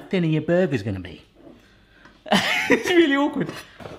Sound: laughs

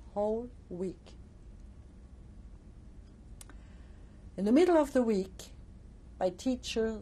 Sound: pauses for 3 seconds

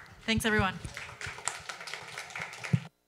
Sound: applause

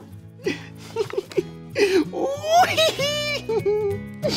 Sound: man giggles

